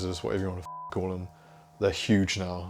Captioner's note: beep